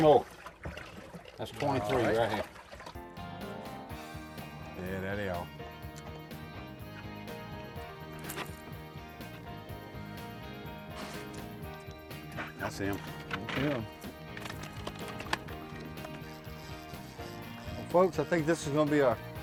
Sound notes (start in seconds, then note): 3.7 laughing; 13.3 upbeat rock music